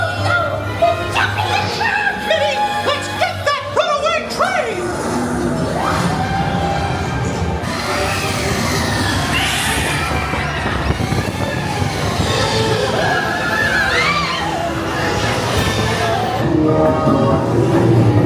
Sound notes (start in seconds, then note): 8.0 dramatic music; 8.0 wind whistling